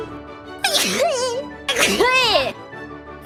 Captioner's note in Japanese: くしゃみ